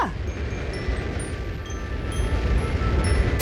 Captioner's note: rocket thrusting